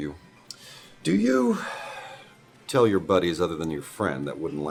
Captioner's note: sigh